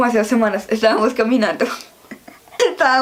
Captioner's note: laughs